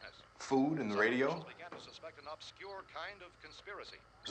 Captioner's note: radio: announcer